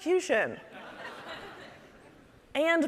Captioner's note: audience laughing